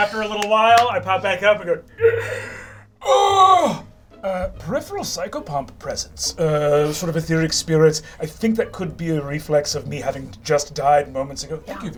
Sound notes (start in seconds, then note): 1.9 gasps